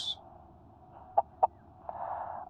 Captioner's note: Gem laughs